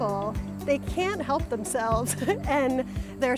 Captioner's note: laughs